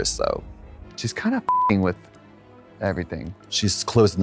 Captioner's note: beep